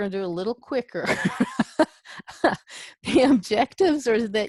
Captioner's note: laughs